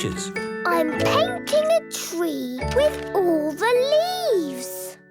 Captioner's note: none